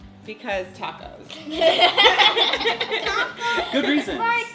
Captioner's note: laughing